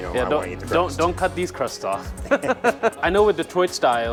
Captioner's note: laughing